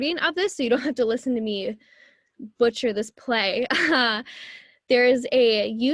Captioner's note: laughs